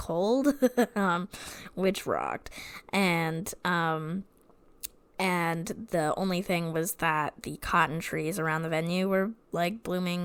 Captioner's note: laughs